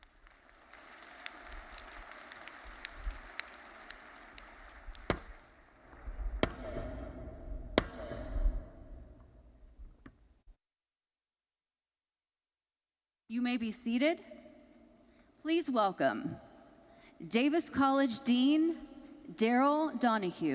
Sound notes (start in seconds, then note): 0.0 audience applauding; 5.2 mace pounding